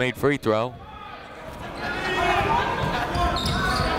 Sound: chatter

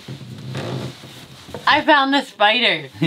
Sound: floorboard groaning

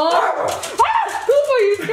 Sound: dog barks

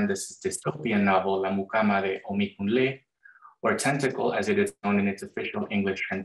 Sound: non-english speech

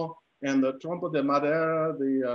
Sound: speaking in foreign language

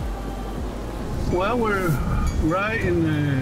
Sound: car engine running

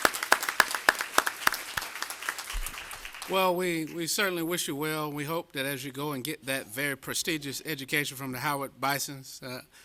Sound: applause

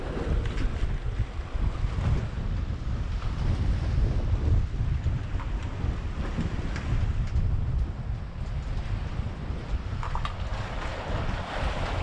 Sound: water lapping

